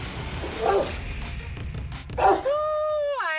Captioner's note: music climbs; dogs bark